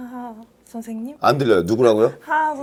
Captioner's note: haha